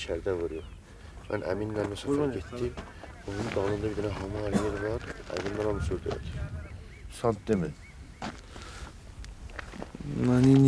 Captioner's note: talk on Persian language